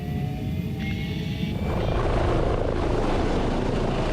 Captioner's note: rattling roar